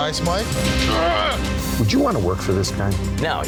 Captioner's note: growling